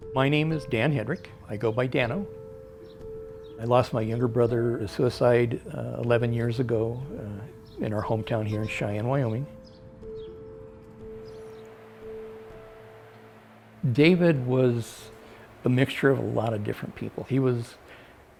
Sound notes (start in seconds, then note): 11.0 birds chirping; 11.0 soft music